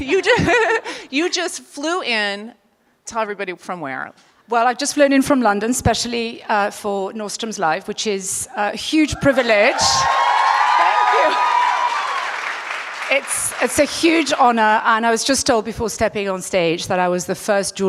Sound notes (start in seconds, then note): 9.6 applause